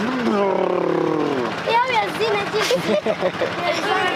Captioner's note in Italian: parla nella propria lingua